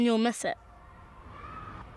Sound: playground sounds

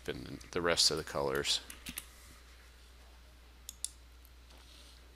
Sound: sound of mouse clicking

